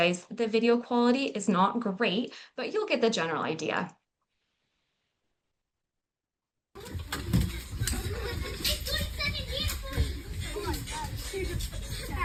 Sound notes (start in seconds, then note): 6.7 kids dancing and talking